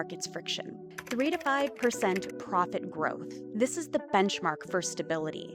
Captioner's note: keyboard clacking